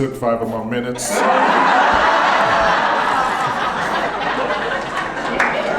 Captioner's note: audience laughing